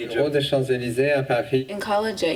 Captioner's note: non-english speech